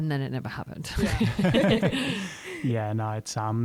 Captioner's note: laughter